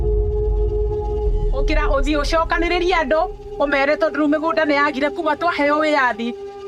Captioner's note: speaking in foreign language